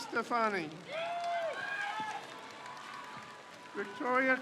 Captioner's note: crowd cheers